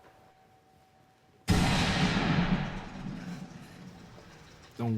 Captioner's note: gunshot blasts